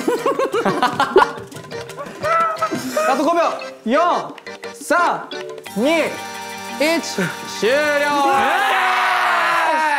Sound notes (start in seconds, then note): 0.0 laughing happily